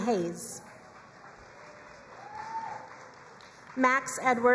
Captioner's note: crowd cheering and applauding